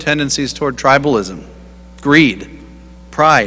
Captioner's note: none